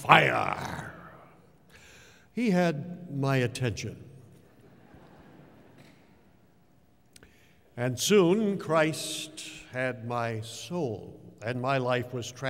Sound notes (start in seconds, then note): 4.5 laughter